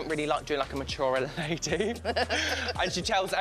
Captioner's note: laughs